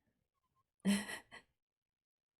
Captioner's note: chuckles